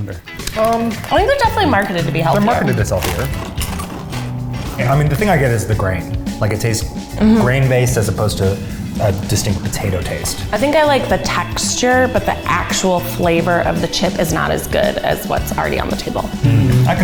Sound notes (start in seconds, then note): 3.8 crunching; 16.4 humming in agreement